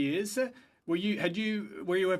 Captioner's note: speaking French